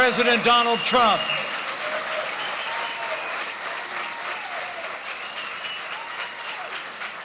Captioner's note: applause